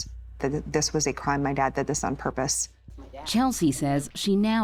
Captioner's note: none